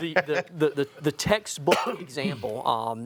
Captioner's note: laughing